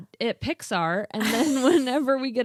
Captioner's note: both laughing